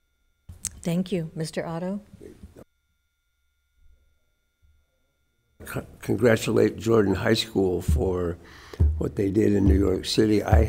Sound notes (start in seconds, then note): none